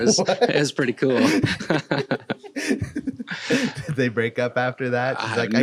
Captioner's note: laughs